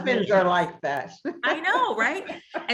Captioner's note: laughs